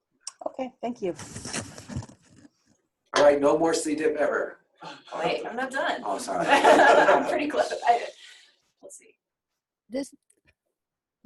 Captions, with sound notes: Okay, thank you. Alright, no more C. diff ever. Wait, I'm not done. Oh sorry. (laughs)